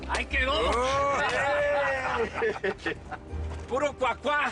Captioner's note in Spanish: Aclamaciones